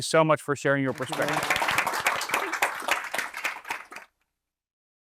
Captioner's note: applause